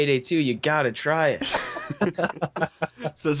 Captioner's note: laughter